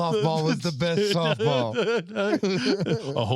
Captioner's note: laughing